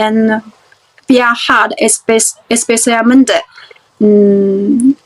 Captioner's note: spanish